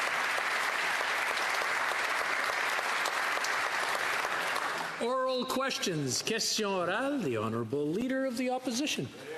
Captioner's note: applause